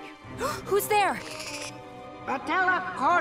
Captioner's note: gasps; squeaking